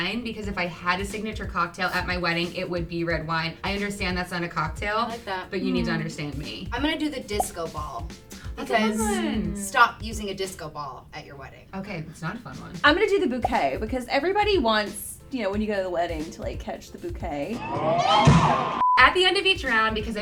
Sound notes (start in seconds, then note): 17.4 shouting